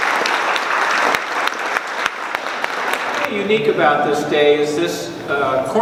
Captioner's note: applause